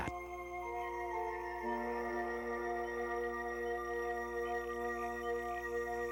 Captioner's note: mellow orchestral music; frog and crickets chirping